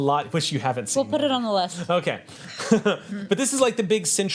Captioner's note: laughs